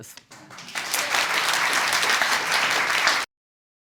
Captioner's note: audience applauds